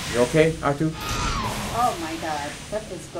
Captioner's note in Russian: Р2-Д2 визжит